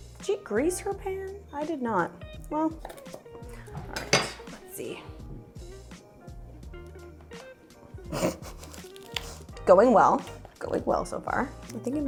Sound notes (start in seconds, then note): 8.0 chuckles